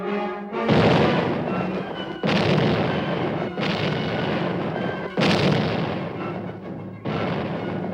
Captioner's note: explosions